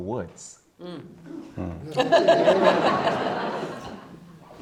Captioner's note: all laughing